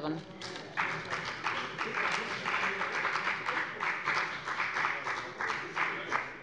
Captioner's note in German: Beifall bei der FDP